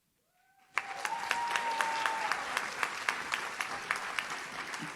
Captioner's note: audience cheers